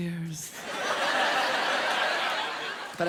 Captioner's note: laughter